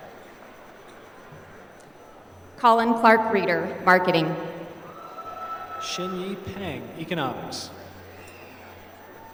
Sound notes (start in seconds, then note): 4.5 applause